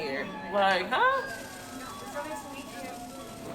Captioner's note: steamer hissing